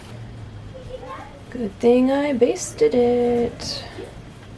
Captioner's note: singsong voice